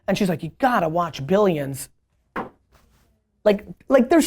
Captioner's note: taps phone